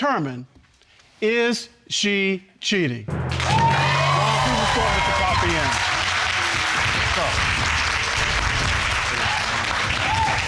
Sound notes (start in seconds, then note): 4.2 loud applause